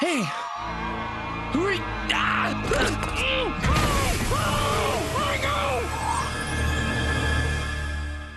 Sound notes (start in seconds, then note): 3.2 muffled screaming